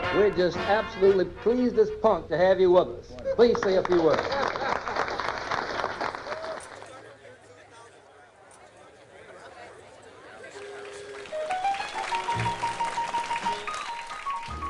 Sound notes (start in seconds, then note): 5.0 applause; 9.4 blues music